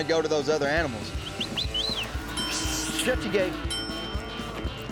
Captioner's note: dinging